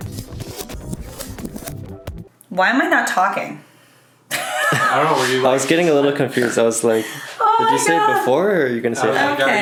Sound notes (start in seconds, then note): 4.3 laughing